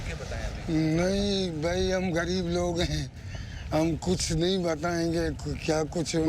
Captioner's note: speaking foreign language